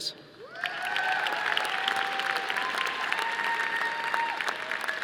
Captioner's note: audience applauding